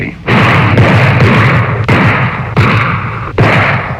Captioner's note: guns firing